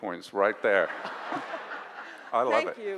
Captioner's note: audience laughs